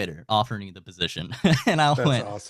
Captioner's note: laughing